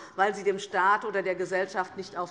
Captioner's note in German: none